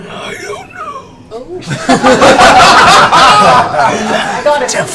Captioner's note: all laugh